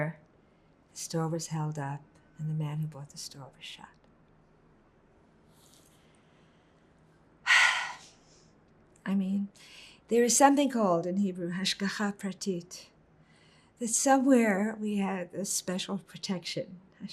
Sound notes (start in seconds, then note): 7.4 sighing; 11.9 hebrew